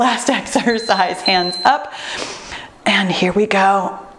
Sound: timer beeps

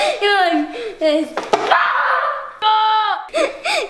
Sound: screaming

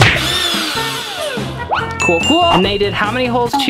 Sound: drill revs

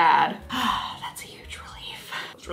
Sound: sighing

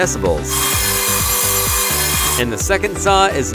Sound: saw whirring

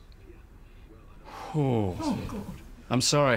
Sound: exhales

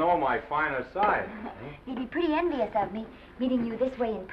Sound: Esther chuckles

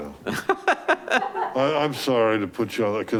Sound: laughing

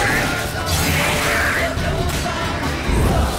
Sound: drowner snarls; flames crackle

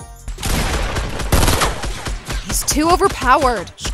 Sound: upbeat instrumental music; gun shots firing

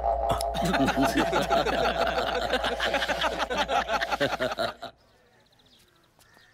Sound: people laughing

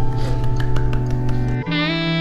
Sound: applause

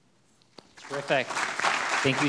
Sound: audience clapping

